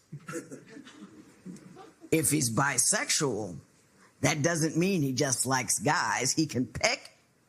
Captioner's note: light laughter